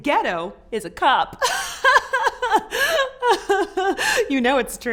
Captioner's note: laughs